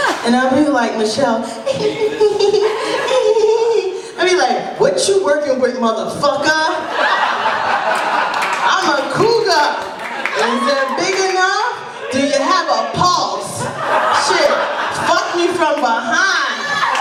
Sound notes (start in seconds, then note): 1.6 giggles; 6.8 laughter